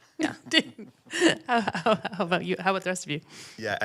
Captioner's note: panel chuckling